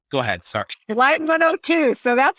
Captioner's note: laughs